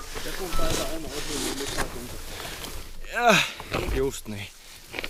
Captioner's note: quietly from behind